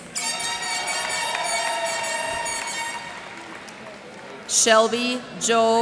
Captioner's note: cheers and applause